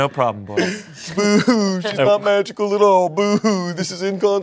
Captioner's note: sobs